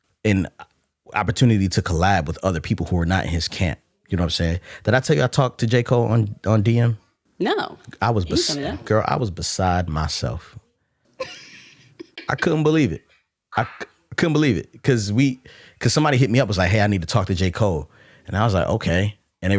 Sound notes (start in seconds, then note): 11.2 laughs